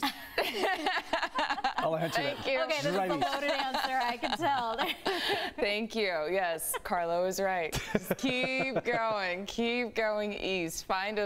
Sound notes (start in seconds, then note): 6.6 laughter